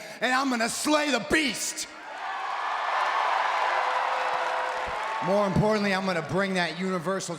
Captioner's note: applause